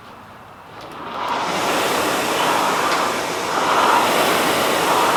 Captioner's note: machine noises